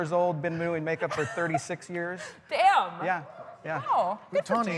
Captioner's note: laughter